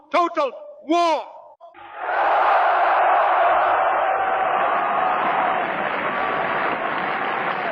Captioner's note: crowd cheering